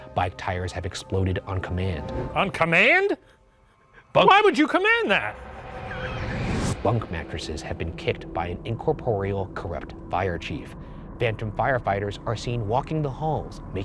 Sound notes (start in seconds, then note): 5.3 laughs; 5.3 menacing music